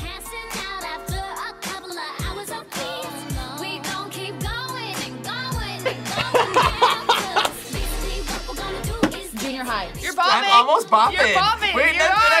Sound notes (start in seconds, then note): 5.8 laughs